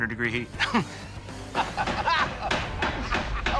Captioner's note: laughter